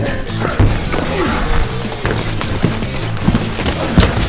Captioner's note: door bangs